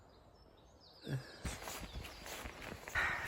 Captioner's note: sound of exhaustion